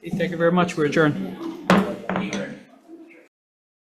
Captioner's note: gavel banging